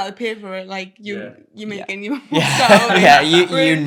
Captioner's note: laughs